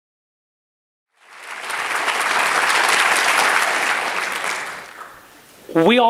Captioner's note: applause